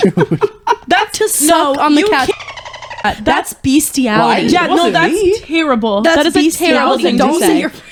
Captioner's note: cat meowing